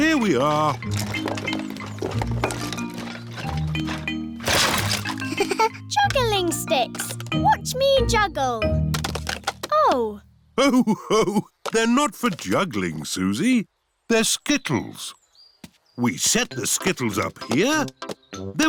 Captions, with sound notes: Here we are. (CHUCKLES) Juggling sticks. Watch me juggle. -Oh. -Ho-ho! They're not for juggling, Suzy. They're skittles. We set the skittles up here.